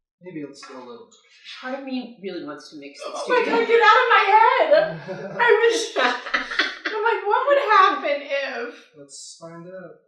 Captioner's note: laughs